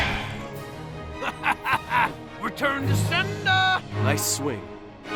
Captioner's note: laughs